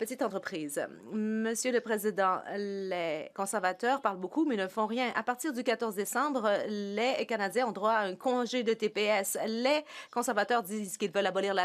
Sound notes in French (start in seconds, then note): 1.7 voix de l'interprète